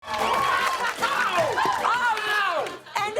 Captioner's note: cheers and applause